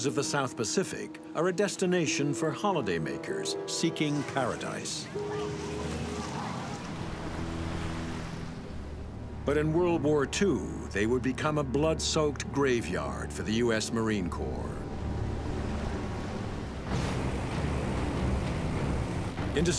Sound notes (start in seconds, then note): 3.8 waves swishing; 5.0 festive children chatting; 7.3 ominous instrumental music; 16.9 airplane engines roaring